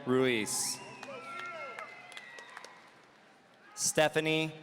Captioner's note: audience cheering